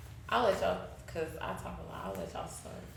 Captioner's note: speaking faintly